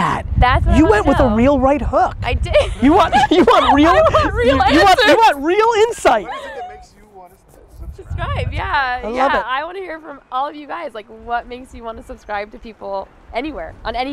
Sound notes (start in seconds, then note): 2.5 laughs